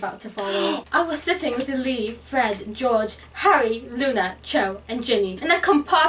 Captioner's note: attempted British accent